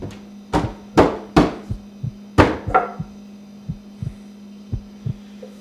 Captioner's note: heart beats; knocks on door